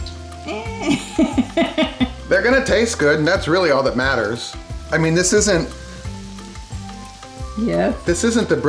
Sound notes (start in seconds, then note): 0.4 woman laughs